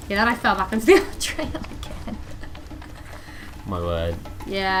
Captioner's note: laughs